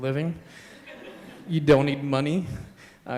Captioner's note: laughter